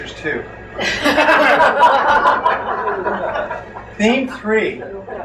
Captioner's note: crowd laughs